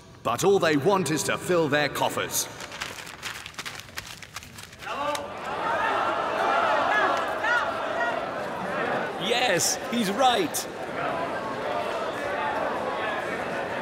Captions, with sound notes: But all they want is to fill their coffers! [crowd cheering in agreement] Yes, he's right!